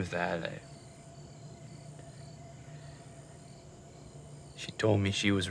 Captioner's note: crickets chirping